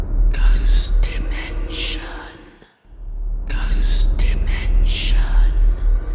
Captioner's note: creepy ambience; whispering Voices